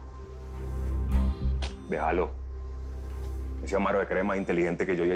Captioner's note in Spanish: Chasquido bucal